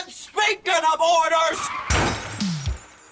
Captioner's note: crash